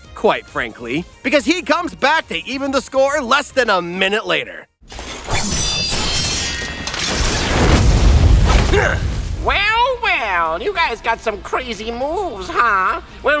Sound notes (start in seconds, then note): 4.8 crashing, whacking